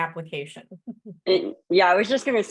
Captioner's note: chuckles